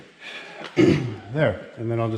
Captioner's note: clears throat